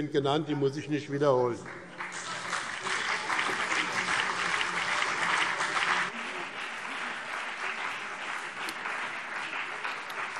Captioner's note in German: Beifall BÜNDNIS 90/DIE GRÜNEN und CDU